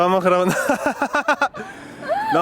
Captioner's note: laughs